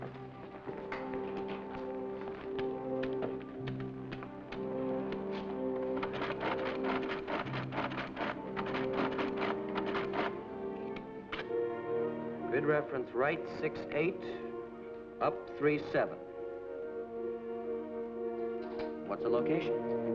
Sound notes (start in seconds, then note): 0.1 dramatic music; 6.0 calculator rattling